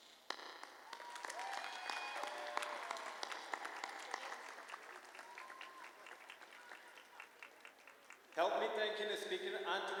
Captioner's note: applause